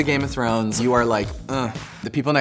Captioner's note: grunts